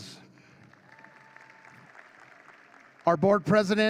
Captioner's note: audience claps